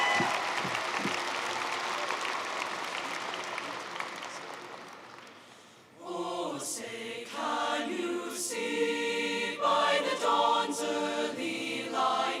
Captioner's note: applause